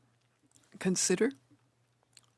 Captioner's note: speaking French